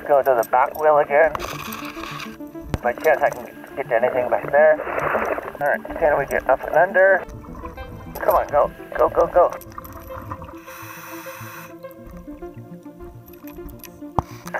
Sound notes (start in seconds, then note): 5.1 water bubbling; 10.7 inhaling air